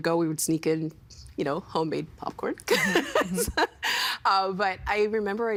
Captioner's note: laughing